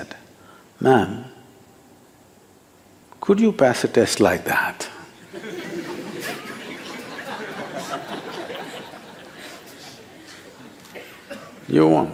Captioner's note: laughter